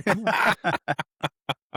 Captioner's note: laughing